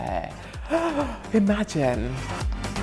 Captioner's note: gasps